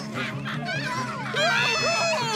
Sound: screaming

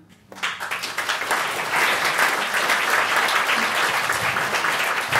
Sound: audience clapping

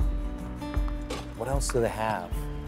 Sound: balls bouncing

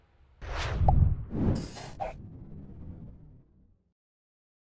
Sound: logo swishing

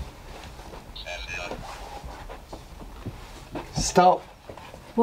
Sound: robotic voice

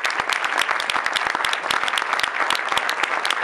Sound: applause

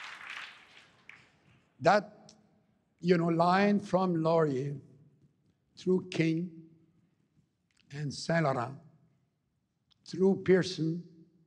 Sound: applause

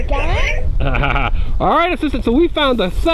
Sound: laughs

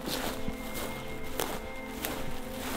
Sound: elk Bugling

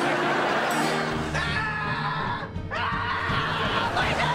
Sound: screaming

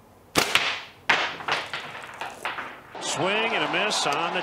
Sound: thwack

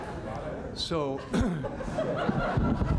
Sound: laughter; clears throat

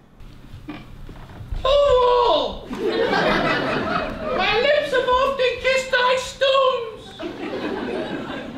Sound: ladies voice

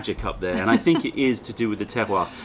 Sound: laughter

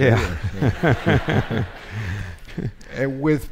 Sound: all laughing

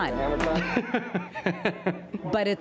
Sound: laughing

